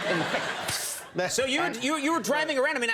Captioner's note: makes spraying noise